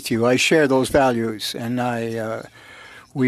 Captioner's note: speaking French